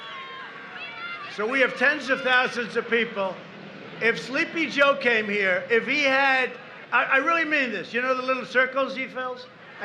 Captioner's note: applause